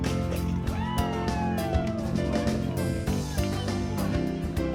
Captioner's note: cheering